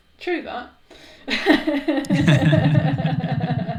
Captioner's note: laughing